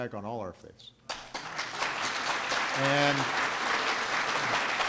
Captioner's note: applause